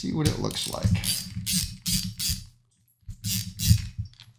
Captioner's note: tool clicking